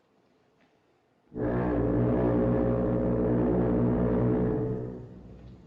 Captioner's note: foghorn Blows